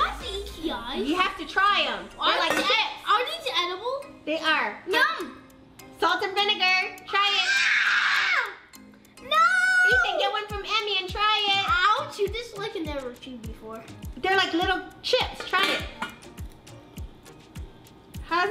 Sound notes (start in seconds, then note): 7.4 screaming